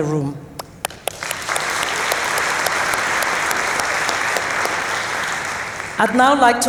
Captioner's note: applause